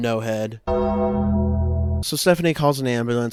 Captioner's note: death bell tolls